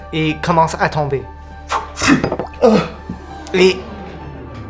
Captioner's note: Hugo strikes the mug